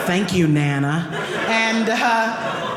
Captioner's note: audience laughing